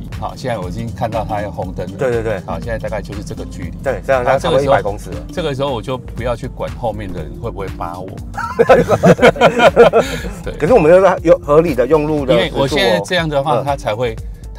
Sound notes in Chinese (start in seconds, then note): 8.4 哈哈哈哈哈